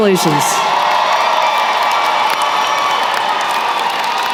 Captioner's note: cheering & applause